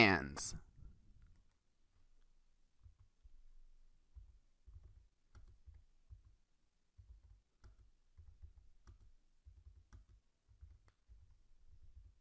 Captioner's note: silence